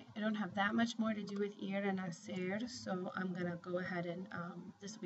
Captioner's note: spanish